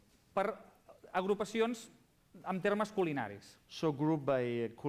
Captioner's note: non-english speech